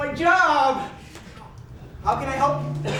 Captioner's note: snap